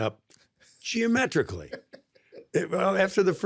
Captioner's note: laughs